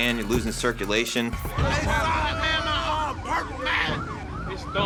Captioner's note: angry shouting